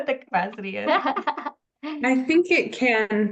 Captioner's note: laughs